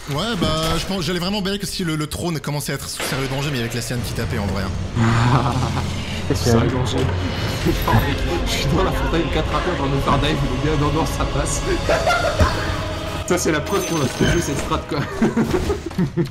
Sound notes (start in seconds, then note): 11.4 laughs